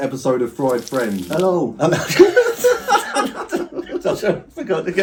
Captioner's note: laughing